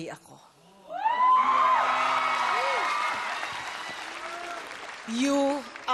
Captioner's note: whooping, applause